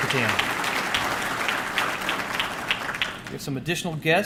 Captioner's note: audience clapping